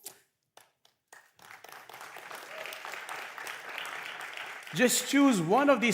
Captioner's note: applause